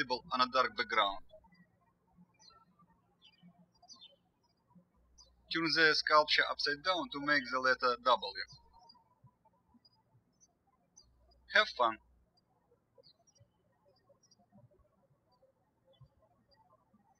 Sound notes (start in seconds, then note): 2.5 birds chirping